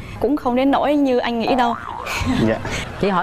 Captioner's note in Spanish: risas